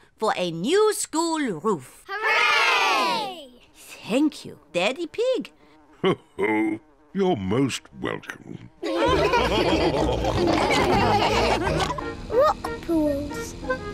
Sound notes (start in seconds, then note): 6.1 chuckles; 8.8 all laughing